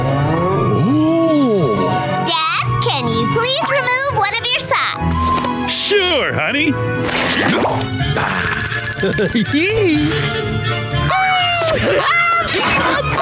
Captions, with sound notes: Woah... Dad, can you please remove one of your socks? Sure, honey. [happily sighing] [laughing] Wee! Aa-ha...